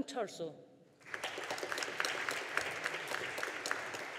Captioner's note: audience applauding